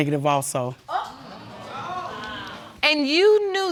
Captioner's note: audience exclaiming